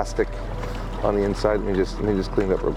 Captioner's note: plastic squeaking